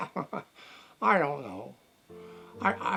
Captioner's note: chuckles